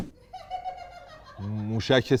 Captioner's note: laughter